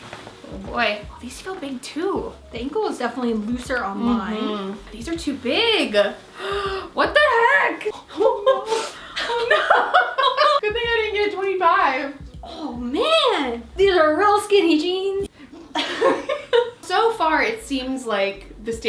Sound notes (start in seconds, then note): 15.5 both laugh